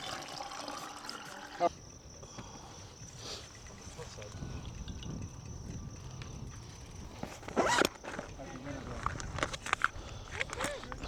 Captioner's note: water running